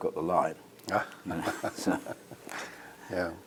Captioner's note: laugh